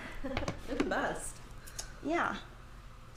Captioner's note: laughs